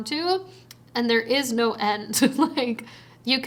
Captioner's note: chuckles